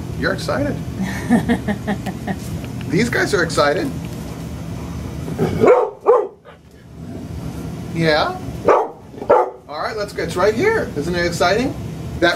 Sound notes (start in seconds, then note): 1.0 laughing; 5.4 dog barking; 8.6 dog barking